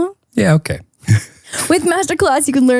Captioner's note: chuckles